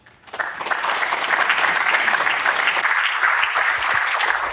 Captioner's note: applause